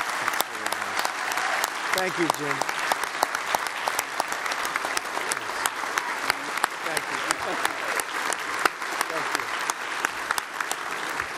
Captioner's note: applause